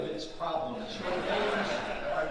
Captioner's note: audience laughing